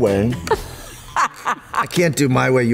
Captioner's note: laughter